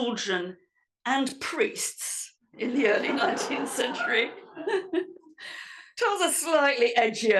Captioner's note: laugh